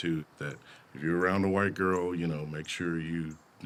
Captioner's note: birds chirping, insects buzzing